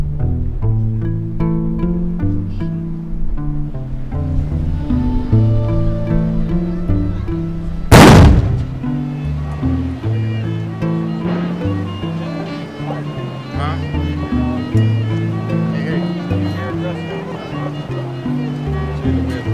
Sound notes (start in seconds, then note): 7.9 loud bang; 8.2 violin playing